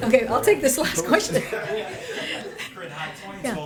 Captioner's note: laughter